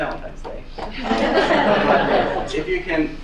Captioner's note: laughing